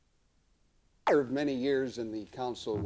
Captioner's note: camera noise